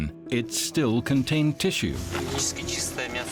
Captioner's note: none